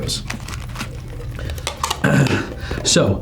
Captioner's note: paper crumpling